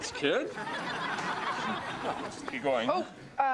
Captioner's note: audience laughs